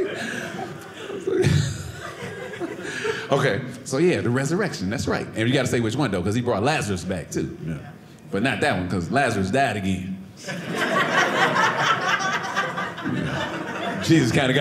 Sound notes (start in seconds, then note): 10.4 audience laughing